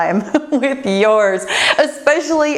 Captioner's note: laughs